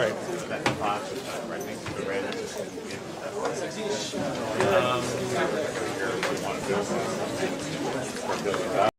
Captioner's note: indistinct conversation